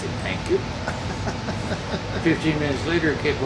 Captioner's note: laughing